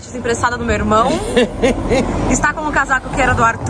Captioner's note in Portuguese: risos